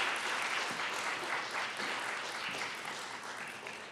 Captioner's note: applause